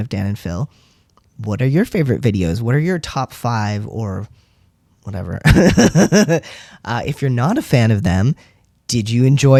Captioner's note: laugh